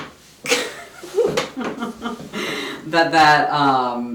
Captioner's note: laughs